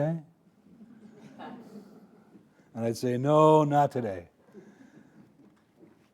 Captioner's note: audience laughing